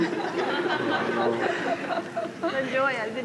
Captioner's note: laughter